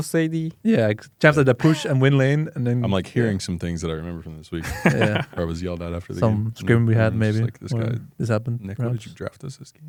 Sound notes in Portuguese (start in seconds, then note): 4.6 risos